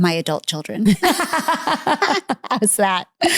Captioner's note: laughing